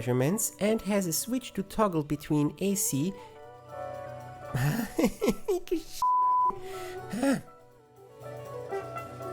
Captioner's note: snicker